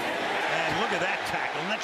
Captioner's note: cheering